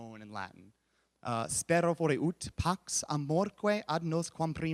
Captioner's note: speaks Latin